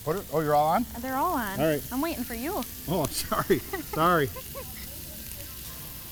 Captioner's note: laughing